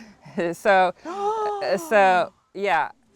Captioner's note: gasps